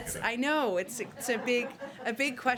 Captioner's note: laughter